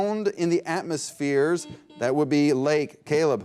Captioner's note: buzzer beep